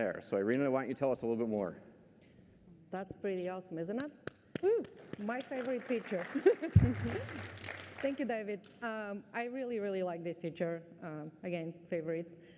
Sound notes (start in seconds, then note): 4.5 applause; 6.2 laughter